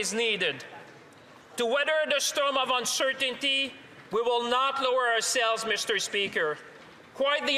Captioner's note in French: voix de l'interprète